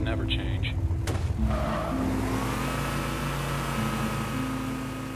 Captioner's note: Warthog engine revs